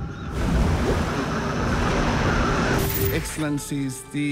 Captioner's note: waves crash, static crackles